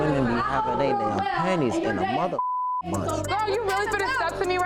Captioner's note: beep